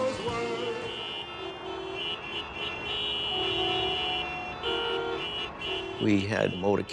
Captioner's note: car horns honking